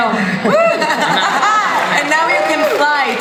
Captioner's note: audience cheering